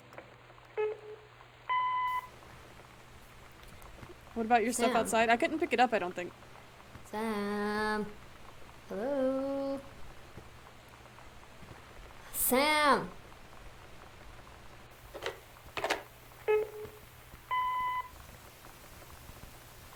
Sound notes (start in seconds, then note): 1.7 messagine Machine Beeps; 8.4 voice on Machine; 14.8 short Low Beep Followed by longer, higher beep; 15.7 receiver Hangs Up